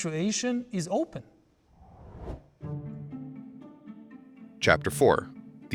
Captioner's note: graphics whooshing